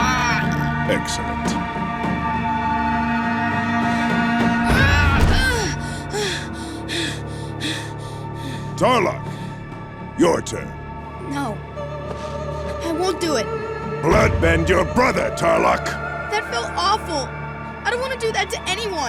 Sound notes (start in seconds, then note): 3.7 groaning; 5.8 panting